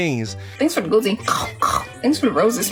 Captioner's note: imitating munching sound